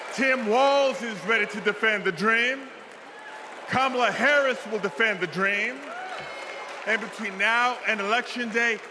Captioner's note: cheers and applause